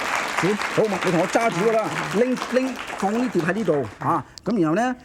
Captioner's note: audience clapping; foreign language